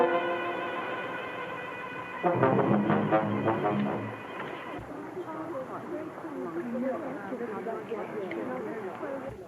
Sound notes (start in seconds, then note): 0.0 soft dramatic music; 5.3 muffled chatter